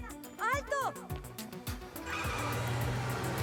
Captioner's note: tire screech